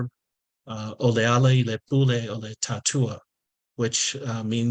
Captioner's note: speaking in Samoan